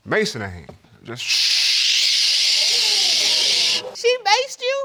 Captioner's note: shushing